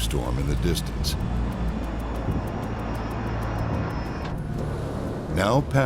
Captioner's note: thunderstorm rumbling